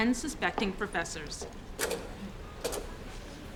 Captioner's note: slide advances